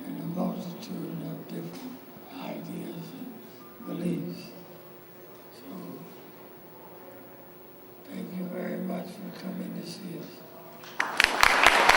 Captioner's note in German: Beifall